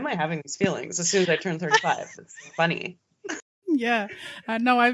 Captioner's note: both giggling